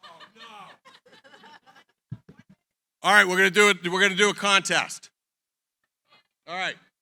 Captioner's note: laughter